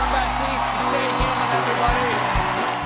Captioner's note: cheers and applause